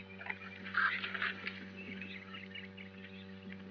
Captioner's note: horse gallops away